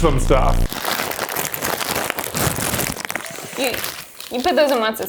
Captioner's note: bag crinkles